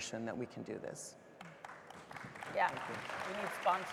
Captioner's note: audience applauding